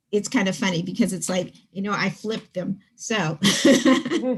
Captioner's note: laughs